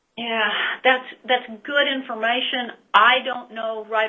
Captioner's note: sighs